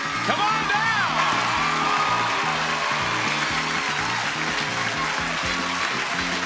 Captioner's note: lively music; audience applauding